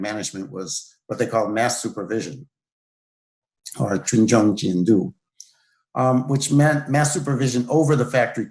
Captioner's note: speaking in Chinese